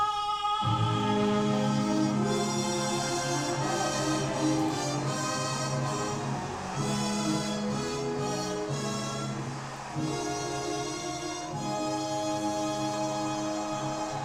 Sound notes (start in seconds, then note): 1.9 audience applauding; 1.9 bright music continues